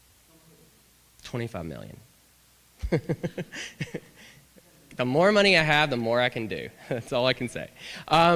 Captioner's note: laughter